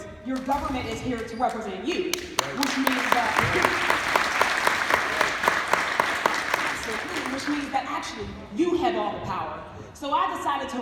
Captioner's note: applause